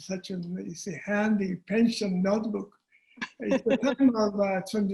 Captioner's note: chuckling